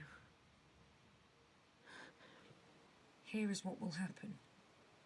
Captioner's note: nyx breathes shakily